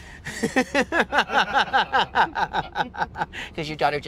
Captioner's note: laughing